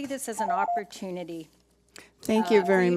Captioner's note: timer rings